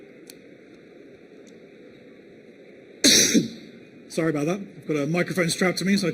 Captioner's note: cough